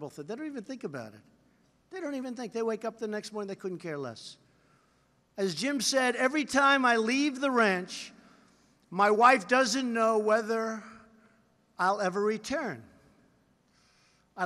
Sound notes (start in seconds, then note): none